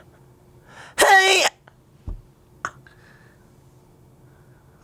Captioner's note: screams